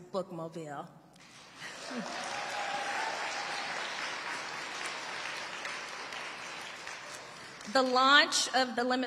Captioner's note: audience applauding and cheering